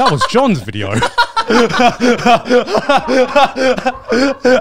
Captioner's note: all laughing